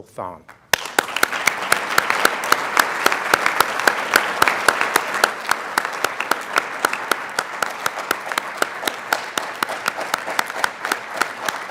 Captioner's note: applause